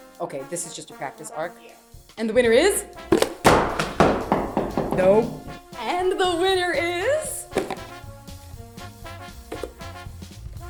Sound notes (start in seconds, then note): 2.8 crashing noises